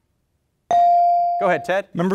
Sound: bell dings

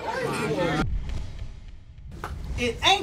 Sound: audience titters

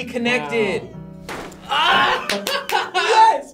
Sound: ceiling thuds; both laugh

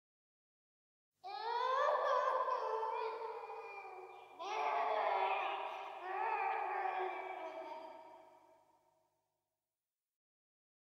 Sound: sound of tiyanak cry

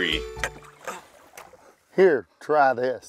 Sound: tired grunting

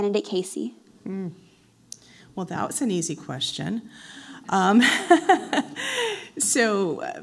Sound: laughs

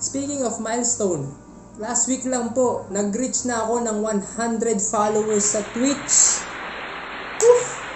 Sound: self-aggrandizing applause #3

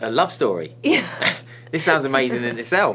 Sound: laughs

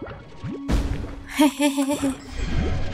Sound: laughter

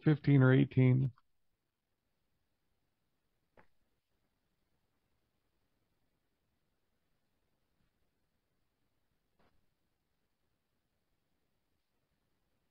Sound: silence

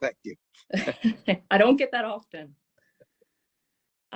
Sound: laugh

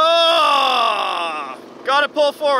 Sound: groans

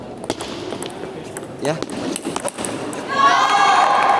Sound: applause

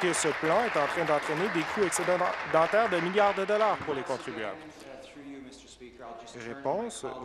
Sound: applause

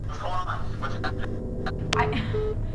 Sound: distorted

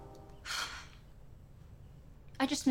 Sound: exasperated sighing

